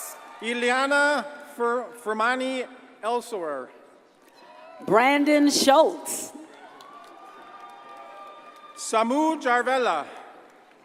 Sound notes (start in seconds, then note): 6.4 audience cheers and applauds